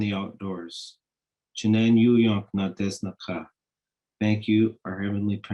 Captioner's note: speaking in Native language